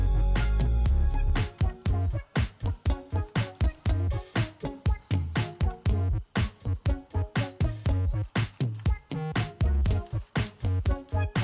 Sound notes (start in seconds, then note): 2.3 crickets chirp; 7.4 gloves squeek